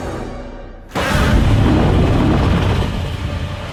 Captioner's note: Godzilla Roars